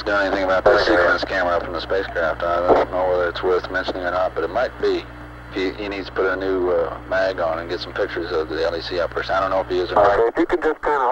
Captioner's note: mission Control Audio